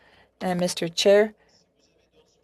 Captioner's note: speaking French